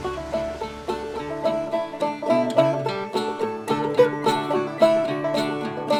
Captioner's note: water rushing